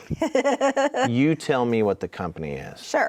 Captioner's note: laughs